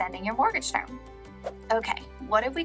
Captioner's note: air whooshing